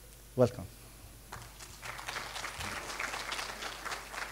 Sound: applause

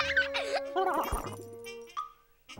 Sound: laughter

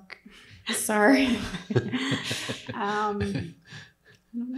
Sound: people laugh lightly

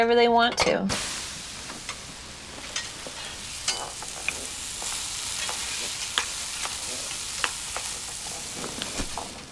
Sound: something frying

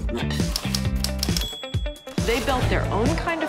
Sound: typewriter ticking; bell dinging

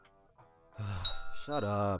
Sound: sigh

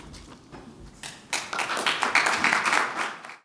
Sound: applause

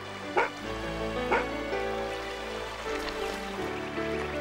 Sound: barking

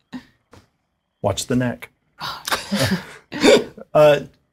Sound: nervous giggles

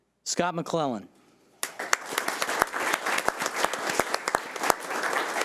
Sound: audience applauding

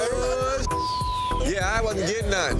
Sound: beep

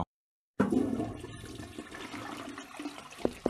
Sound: toilet flush

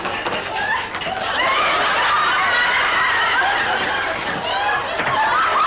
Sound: audience laughs

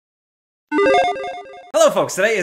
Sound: logo beeps

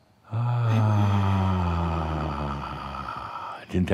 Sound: speaking while holding breath

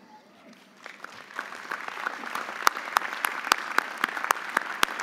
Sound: audience applauding

